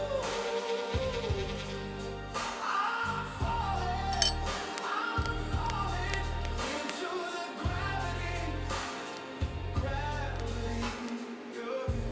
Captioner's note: TIG welding